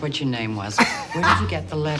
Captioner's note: Katya laughs